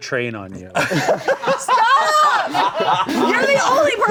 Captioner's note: laughing